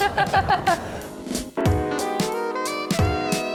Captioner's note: laughs